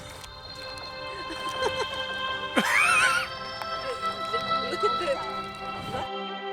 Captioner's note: water buffalo chomps, people laugh, music plays